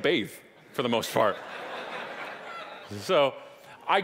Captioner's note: audience laughing